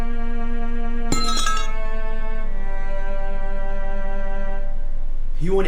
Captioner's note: crowbar clatters